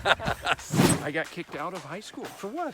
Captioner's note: laughing